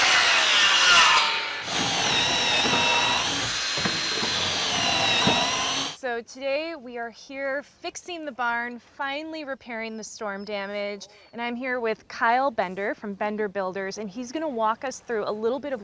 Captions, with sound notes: (drill whirring) So, today we are here fixing the barn, finally repairing the storm damage, and I'm here with Kyle Bender, from Bender Builders and he's gonna walk us through a little bit